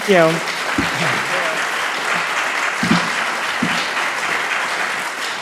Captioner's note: audience clapping